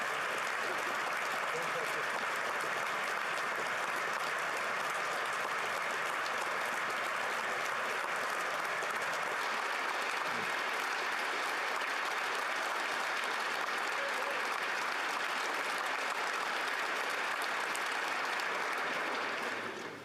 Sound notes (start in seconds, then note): 2.6 applause